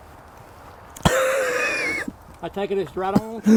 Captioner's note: mayor coughs